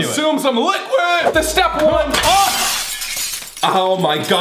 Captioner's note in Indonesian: kaca pecah